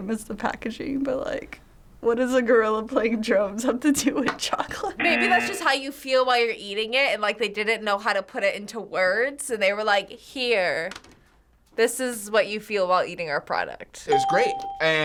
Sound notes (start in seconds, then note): 4.6 chuckles